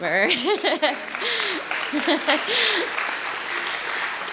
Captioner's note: applause